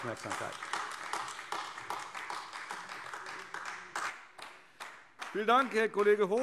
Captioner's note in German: Beifall AfD